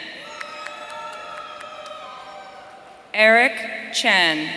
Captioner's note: audience cheering